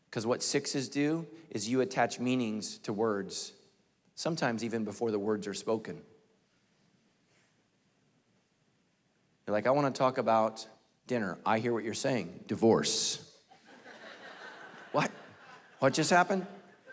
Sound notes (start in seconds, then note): 13.5 congregation laughing